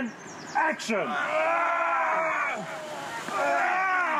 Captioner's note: grunting